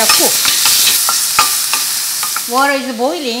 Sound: oil heating

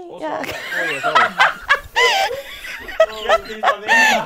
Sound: people laughing

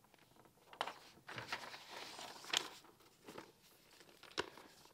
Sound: paper rustling

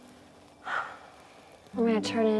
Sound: Grace sighs

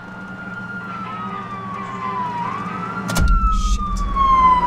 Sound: siren blaring

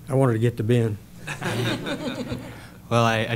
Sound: laughter

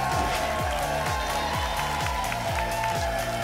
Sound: applause and cheering cont; whoosh

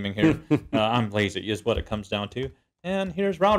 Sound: laugh

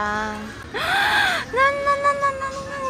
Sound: gasp

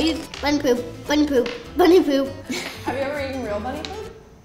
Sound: laughing

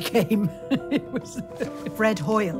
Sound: chuckling

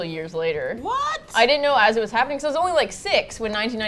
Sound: in disbelief

